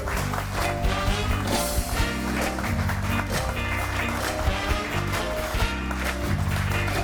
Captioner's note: audience applauding; upbeat music continues